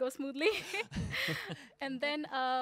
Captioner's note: laughing